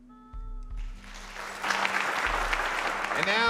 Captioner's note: applauding